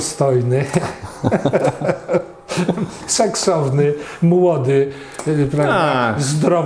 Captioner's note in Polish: śmiech